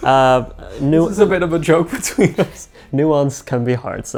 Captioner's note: chuckles